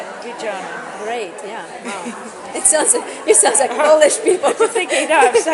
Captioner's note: laughs